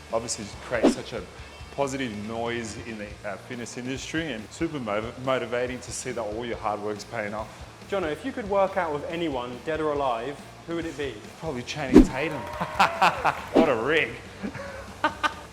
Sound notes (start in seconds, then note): 12.3 laughs